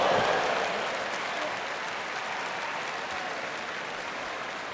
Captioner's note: audience applauds